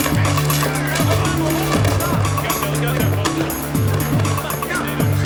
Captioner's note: police shouting